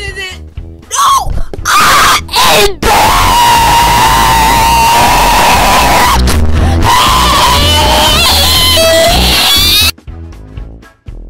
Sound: screaming in agony; le voice crack

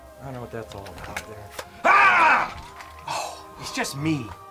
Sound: scream

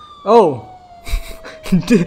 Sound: weird laughs

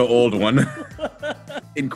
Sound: laugh

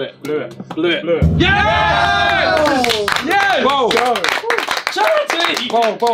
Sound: all cheering and clapping

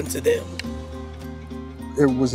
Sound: baseball bat cracks

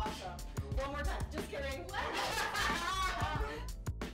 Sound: laughs

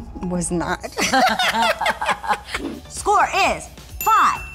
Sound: laughter

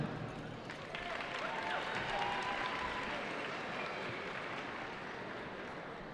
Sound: cheering

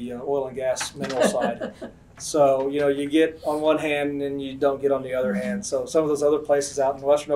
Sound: laughter

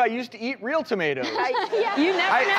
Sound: laughs

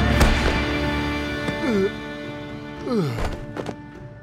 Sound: groaning

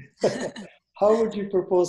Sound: both laughing

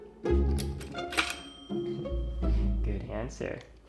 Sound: bell dinging

